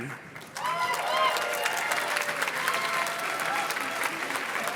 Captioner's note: audience cheers and claps